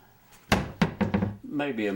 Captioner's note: door slams